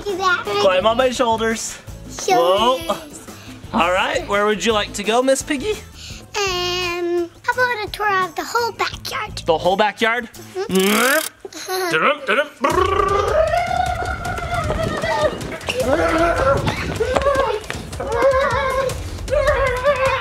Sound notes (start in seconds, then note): 10.7 motor revving; 16.9 screaming